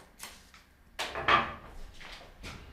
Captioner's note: clattering tools